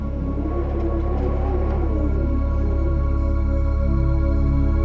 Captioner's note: wind blows